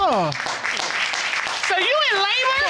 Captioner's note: spectators applaud